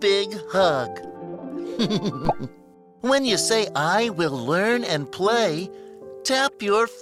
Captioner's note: laughs